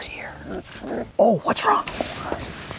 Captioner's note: puppy growls